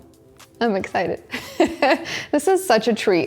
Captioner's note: chuckles